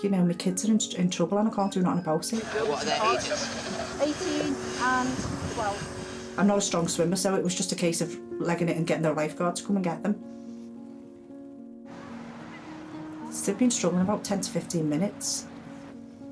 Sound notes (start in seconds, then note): 11.9 waves crashing